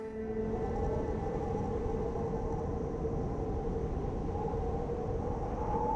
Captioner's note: wind howling